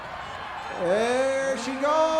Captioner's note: crowd cheers